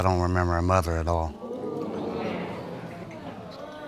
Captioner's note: audience exclaiming